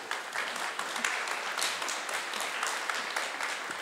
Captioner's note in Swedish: Applause